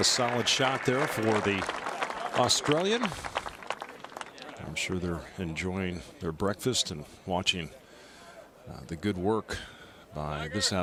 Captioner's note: applause